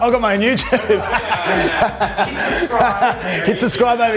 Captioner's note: laughs